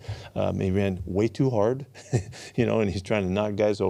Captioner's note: laughs